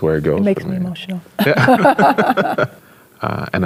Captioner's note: both laughs